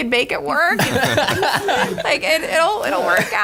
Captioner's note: laughter